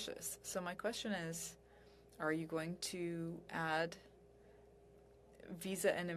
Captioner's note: speaking french